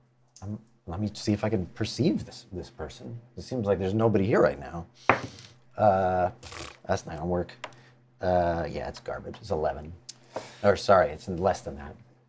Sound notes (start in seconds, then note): 4.8 die clatters; 6.4 blows raspberry